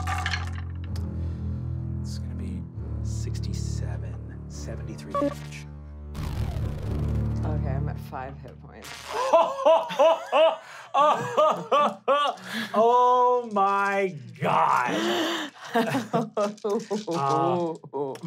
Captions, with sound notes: (dice rolling) It's gonna be, 67, 73 damage. - Okay, I'm at five hit points. (laughing) - Oh my god. (laughing)